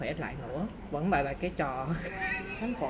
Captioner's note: laugh